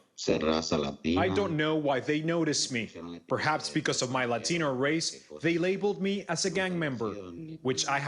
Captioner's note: speaking in spanish